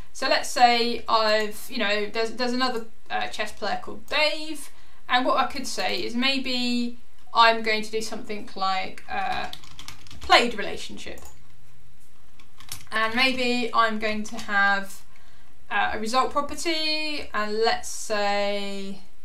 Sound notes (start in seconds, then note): 9.2 keyboard clicking